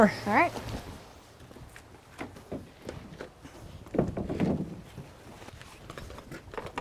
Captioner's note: lumber moving